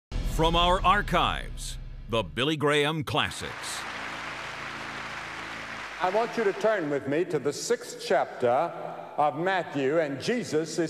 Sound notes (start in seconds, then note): 4.9 applause